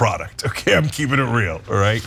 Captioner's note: laugh